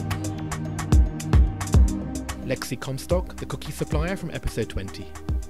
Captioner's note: voiceover